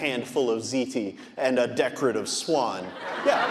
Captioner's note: audience laughing